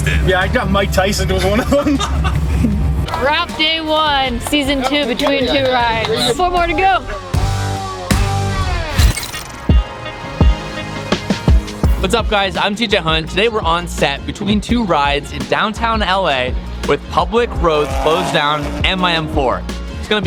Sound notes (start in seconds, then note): 1.3 both laugh; 8.9 mechanical chirping; 9.2 upbeat music